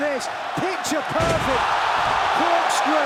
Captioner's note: crowd roars